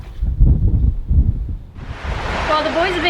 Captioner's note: wind whipping